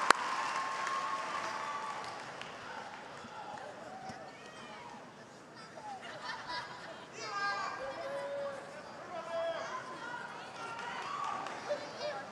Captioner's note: cheers and applause